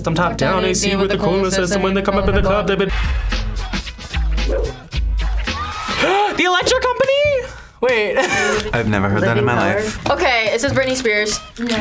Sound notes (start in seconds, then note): 3.0 upbeat music; 6.0 gasps